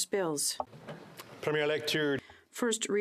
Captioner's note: speaking French